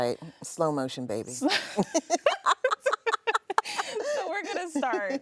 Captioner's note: both laughing